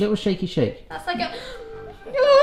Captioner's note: gasps